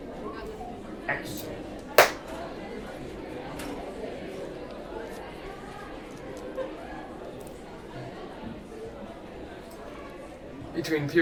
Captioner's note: highschool noises